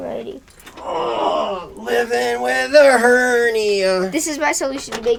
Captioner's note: groans